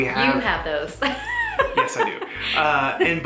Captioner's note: laughs